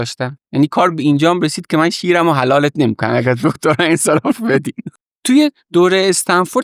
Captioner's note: laughs